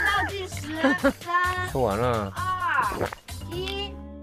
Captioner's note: still chewing, still chewing